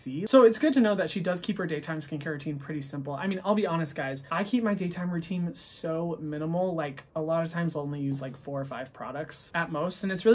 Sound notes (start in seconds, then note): none